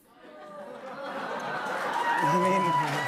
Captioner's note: laughter, cheers, applause